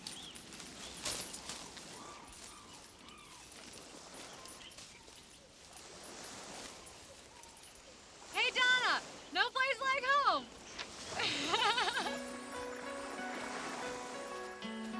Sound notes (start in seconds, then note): 11.1 laughs; 12.1 dramatic music